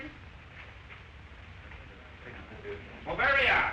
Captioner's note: men talking